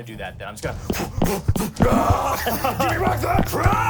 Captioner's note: grunts